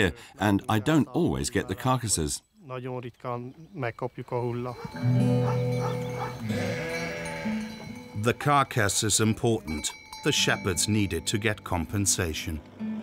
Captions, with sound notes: and I don't always get the carcasses. (speaking in foreign language) The carcass is important. The shepherds need it to get compensation.